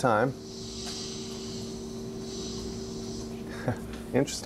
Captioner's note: pipes Hissing